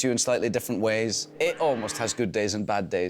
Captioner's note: man yelling